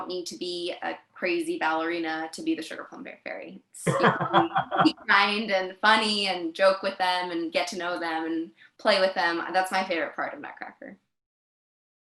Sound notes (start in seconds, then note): 3.8 laughing